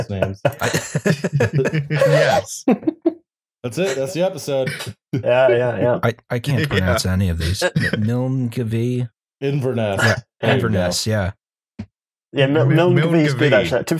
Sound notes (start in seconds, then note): 0.0 laughter; 5.1 laughing